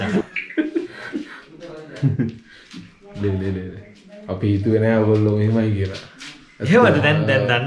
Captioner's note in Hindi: हंसते हुए